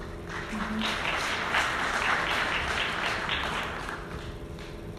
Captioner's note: audience clapping